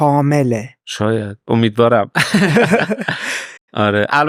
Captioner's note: laughs